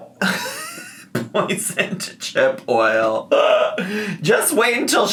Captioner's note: laughs